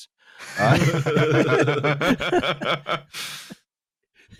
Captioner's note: laughter